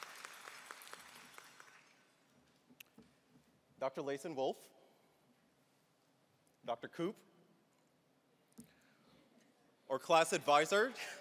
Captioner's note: applause